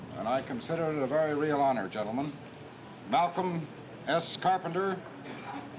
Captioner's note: none